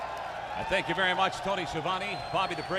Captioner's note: crowd cheering